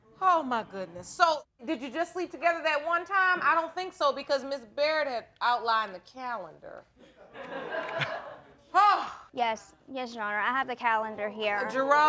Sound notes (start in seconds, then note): 7.2 audience laughing; 7.6 sighs